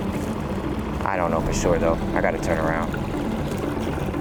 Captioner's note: sighs; motor droning; suspenseful music continues